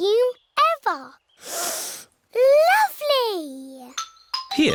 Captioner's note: sniffs